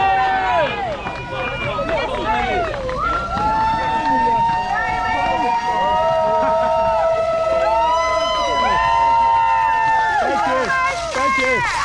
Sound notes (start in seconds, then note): 0.0 lots more cheering. getting very loud as we pass the Whizz Kidz point